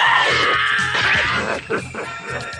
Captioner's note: SFX: sword strokes